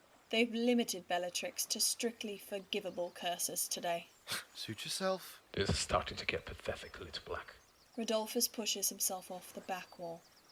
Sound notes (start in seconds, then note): 4.3 Lucius huffs